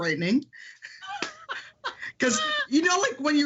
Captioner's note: laughing